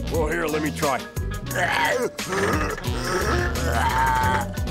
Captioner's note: grunting